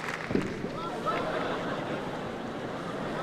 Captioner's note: laughter